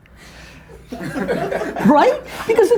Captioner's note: group laughter